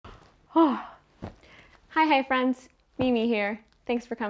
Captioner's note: yawns